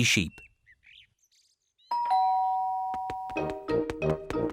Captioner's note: doorbell